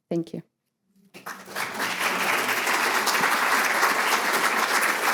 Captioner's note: audience applauding